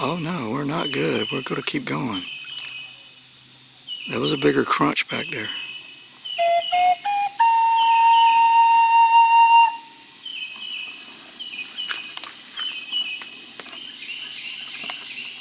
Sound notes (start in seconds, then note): 6.5 four rising flute notes; 10.7 birds and bugs chirping